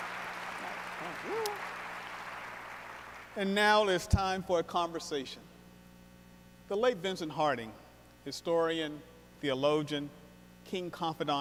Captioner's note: cheers and applause